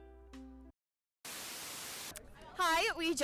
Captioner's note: static buzzes